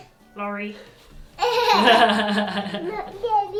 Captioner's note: giggles